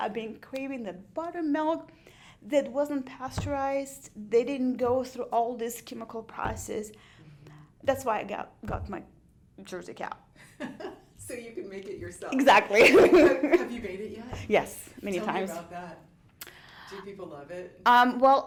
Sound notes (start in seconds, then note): 12.6 laughs